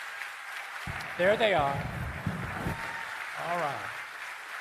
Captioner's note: cheering and Applause